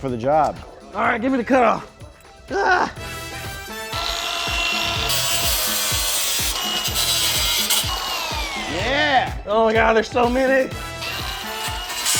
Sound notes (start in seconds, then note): 2.5 grunts; 3.5 saw whirring